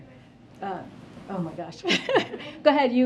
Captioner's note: laughs